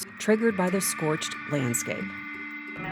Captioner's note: sound: radio transmissions